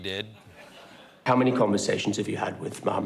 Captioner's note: laughter